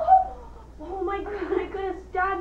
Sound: Chloie gasps

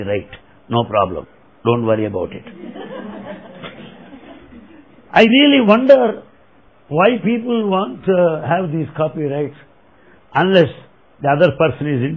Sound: laughter

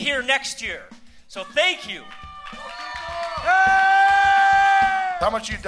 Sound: applause

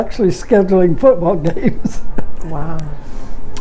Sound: chuckles

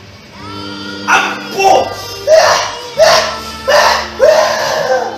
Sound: screaming

